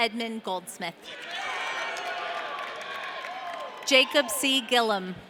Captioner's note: audience cheering